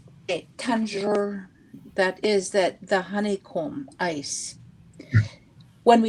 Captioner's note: speaking Indigenous language